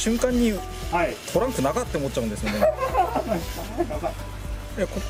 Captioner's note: laughs